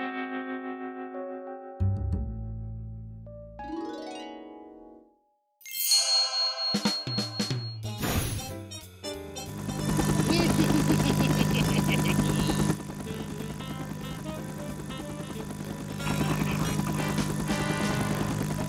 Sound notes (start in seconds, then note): 0.0 guitar chord; 1.8 bass strummed; 4.0 harp scaled; 5.6 bell dings; 9.9 helicopter whirring; 10.2 chuckling